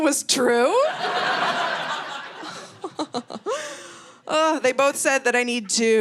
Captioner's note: audience laughing